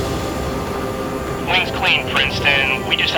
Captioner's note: voiceover